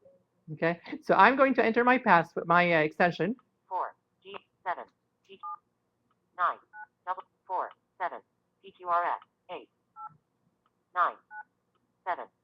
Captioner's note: Siri talking